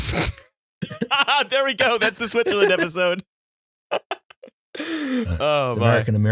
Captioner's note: laughter